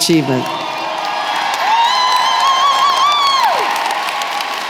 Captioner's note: applause